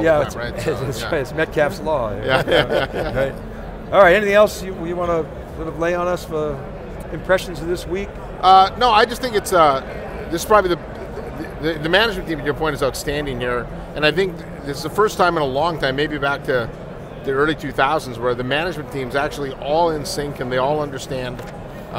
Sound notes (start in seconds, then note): 2.1 men laugh